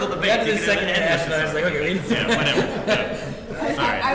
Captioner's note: laughing